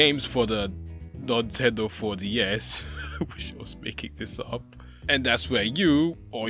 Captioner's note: laughs